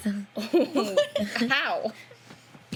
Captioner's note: laughing